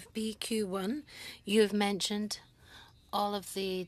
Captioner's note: speaking French